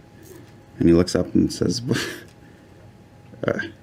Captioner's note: laughs